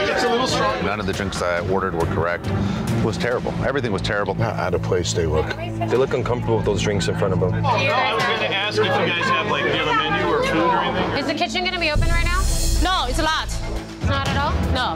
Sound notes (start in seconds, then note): 7.9 patrons talking over each other